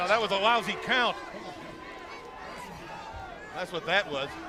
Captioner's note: crowd chatter